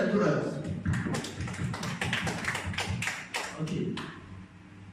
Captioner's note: insincere clap